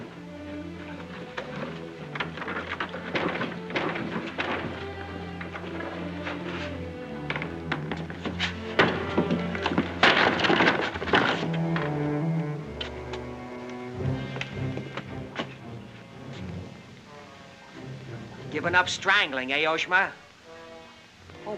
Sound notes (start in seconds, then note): 0.3 soft suspenseful music; 2.2 banging on door; 5.1 soft suspenseful music; 8.1 door breaking; 11.7 soft suspenseful music